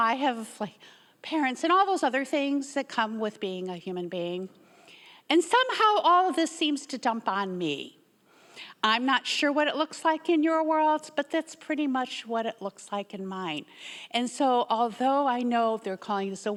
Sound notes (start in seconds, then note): none